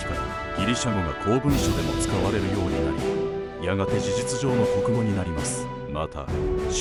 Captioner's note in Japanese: ギリシャ語